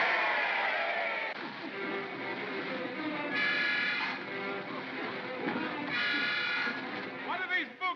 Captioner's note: mob cheers; water splashing; suspenseful music